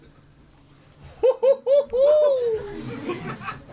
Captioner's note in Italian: risata malefica da clown